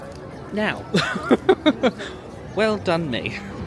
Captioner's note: laughing